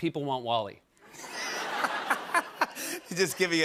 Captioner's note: laughter